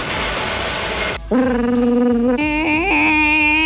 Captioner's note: blender whirs; Marc imitates blender